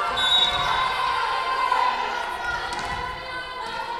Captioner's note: whistle blowing